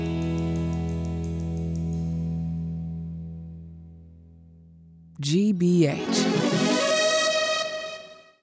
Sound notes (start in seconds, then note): 5.9 electronic trill